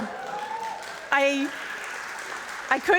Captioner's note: audience applauding and cheering